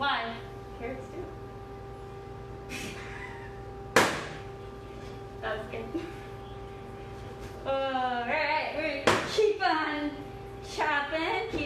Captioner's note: laughs